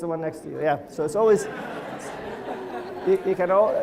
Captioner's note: crowd laughter